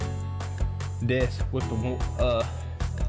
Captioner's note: stammers, inaudible